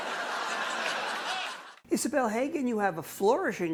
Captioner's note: audience laughs